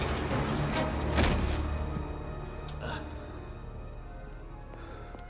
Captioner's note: Gammon thuds